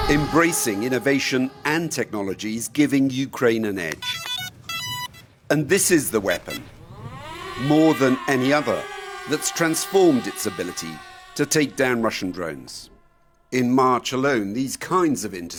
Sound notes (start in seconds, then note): 4.0 beeping; 6.6 drone buzzing